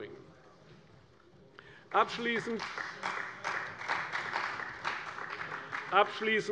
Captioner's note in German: Beifall bei der CDU